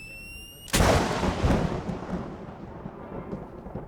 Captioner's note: thunderclap